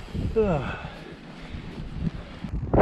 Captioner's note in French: Soupir